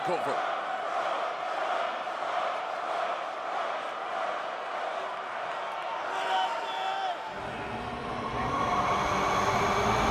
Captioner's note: crowd cheering